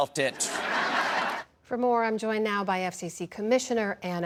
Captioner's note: laughter